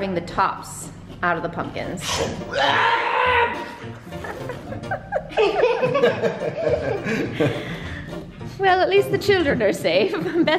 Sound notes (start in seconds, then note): 3.9 kids laugh